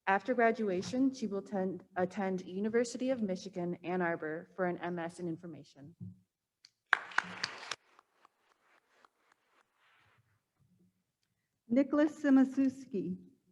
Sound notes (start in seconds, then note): 6.9 attendees applauding